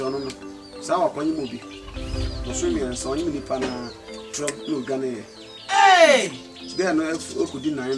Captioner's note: shouting